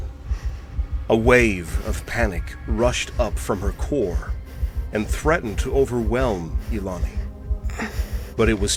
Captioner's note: Ilani's breaths and heartbeat quicken